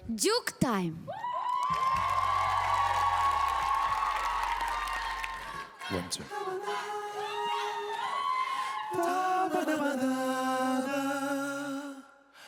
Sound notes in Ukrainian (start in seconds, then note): 5.8 оплески